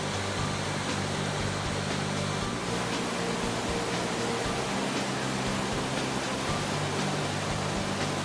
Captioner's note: waterfalls sound